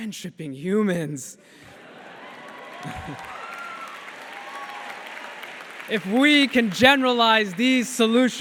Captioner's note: cheers